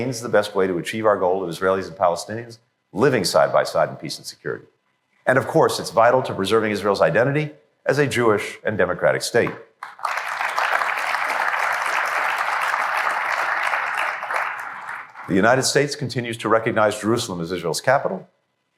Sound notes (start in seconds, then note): 12.4 applause